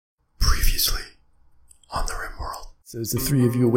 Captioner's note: whispered